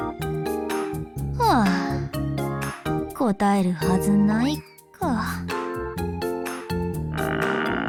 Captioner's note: sigh